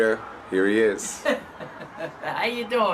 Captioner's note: laughing